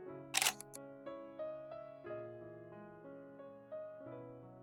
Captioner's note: click